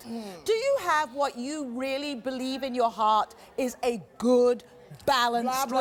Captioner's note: none